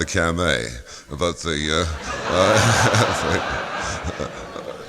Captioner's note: laughter